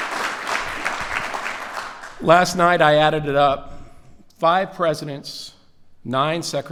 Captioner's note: applause